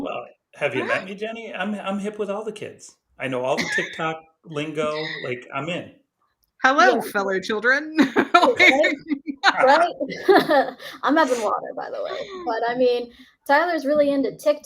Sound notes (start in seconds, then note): 8.0 laughs